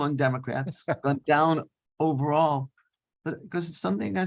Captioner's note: laughing